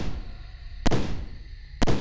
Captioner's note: gunshots